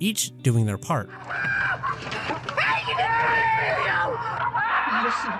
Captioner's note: yelling ecstatic and relieved